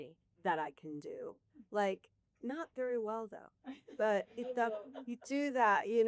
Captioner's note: laughter